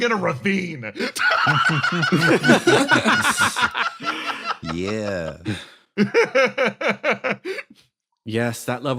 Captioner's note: laughs